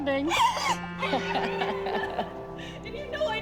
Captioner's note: laughs